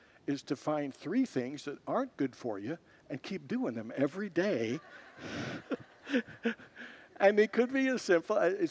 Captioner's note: congregants laugh